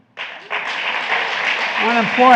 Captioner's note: applause